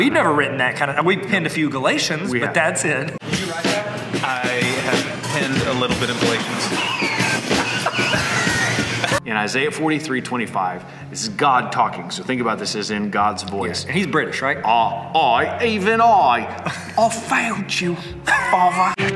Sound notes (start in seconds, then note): 6.4 laughing